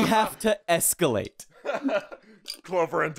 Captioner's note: laughter